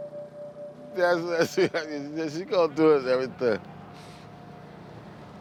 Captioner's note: laughing, mumbling